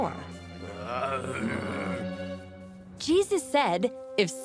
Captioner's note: grumbling